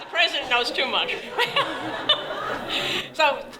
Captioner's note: laughter